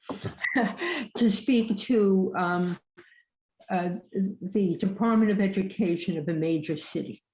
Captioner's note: laughs